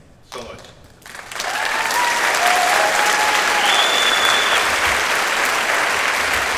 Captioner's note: audience cheers and applauds